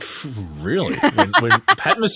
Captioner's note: laughs